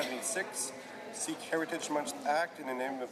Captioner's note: speaking French